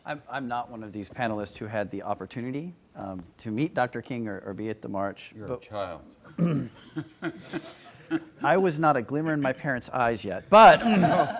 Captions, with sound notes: - I'm not one of these panelists who had the opportunity to meet Doctor King or a be at the March. - You're a child. (audience laughing) - I was not a glimmer in my parent's eyes yet, but,